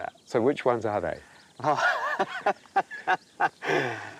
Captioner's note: laughs